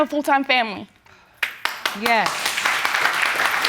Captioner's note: audience applauding